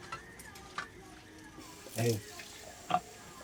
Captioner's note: water running